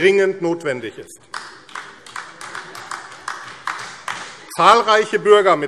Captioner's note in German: Beifall AfD